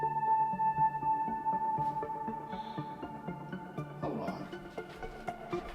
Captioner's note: sighs